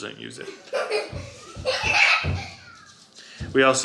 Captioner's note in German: kichert